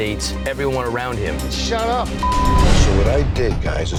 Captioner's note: beep